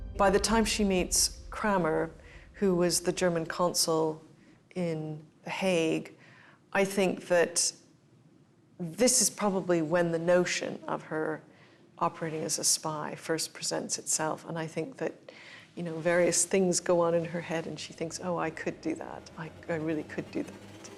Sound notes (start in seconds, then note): none